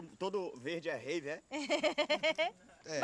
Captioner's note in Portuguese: risos